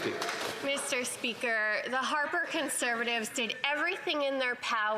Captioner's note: some Applause